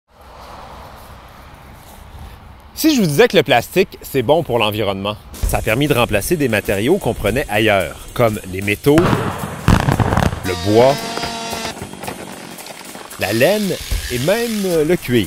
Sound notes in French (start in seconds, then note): 0.1 bruit d'autos derrière; 9.0 explosions; 9.0 craquement